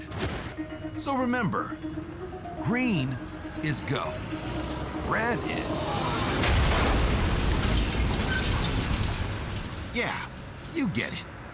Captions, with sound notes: So remember, green is go. Red is... [loud bump] [loud crash] Yeah, you get it.